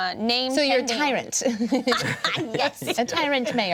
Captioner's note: everyone laughs